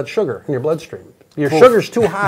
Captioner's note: laughs